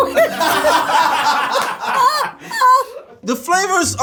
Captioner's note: all laugh